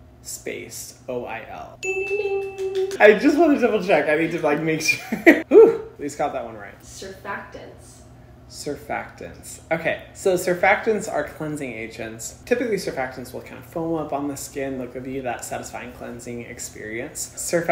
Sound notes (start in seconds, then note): 1.8 ding